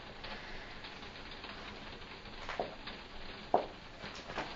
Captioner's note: rain hitting window